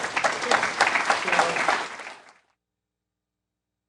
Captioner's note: applause